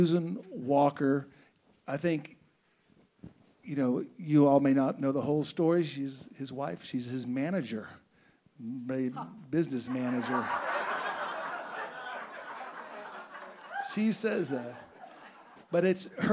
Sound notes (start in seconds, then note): 9.8 audience laughing